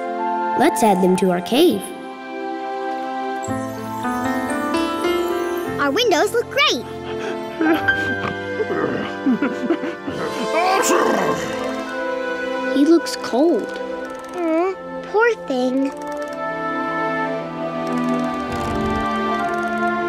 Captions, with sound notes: Let's add them to our cave. Our windows look great! [shivering] [sneezing] -He looks cold. -Aww, poor thing.